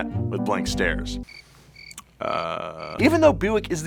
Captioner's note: insect chirping